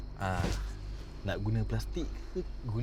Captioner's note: in Bahasa Melayu